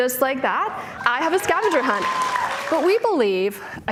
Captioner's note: audience cheering